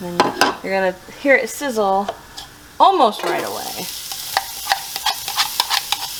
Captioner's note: vegetables sizzling in pan